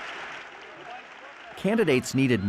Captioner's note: audience applauds